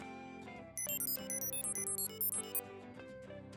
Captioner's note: beeping